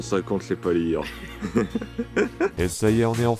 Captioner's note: laughs